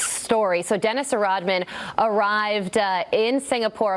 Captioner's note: none